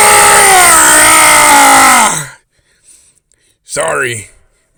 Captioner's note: Wolvermeizer lets out a lil scream